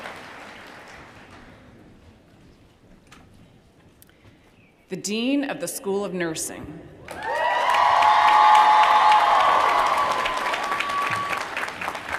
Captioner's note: cheers & applause